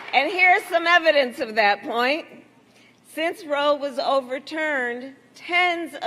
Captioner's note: applause